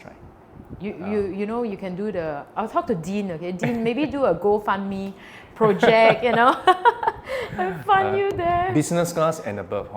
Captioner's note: laughs